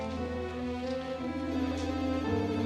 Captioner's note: phone ringing